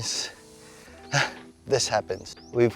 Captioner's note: sighs